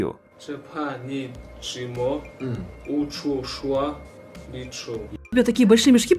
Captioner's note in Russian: повторяет слова на китайском языке